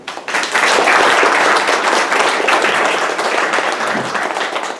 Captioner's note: audience clapping